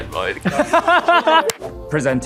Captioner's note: cats laughs